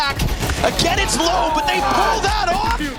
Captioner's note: players cheering; gun firing